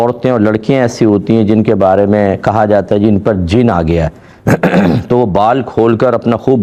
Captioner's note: clears throat